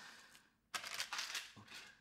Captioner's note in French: chuchote